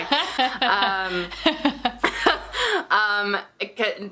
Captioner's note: both laughing